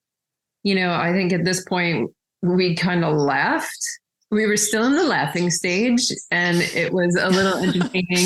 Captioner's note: laughs